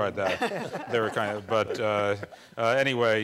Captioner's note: laughing